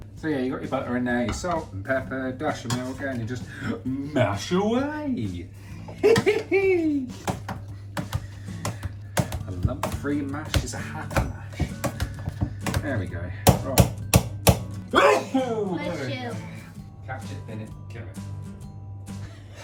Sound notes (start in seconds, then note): 14.9 sneezes